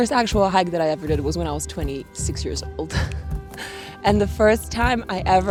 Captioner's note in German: lacht